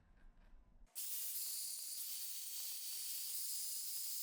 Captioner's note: Dremel buzzing